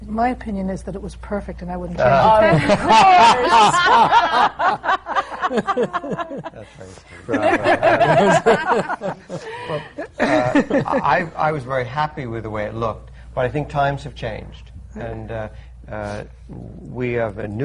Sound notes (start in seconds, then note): 2.2 laughter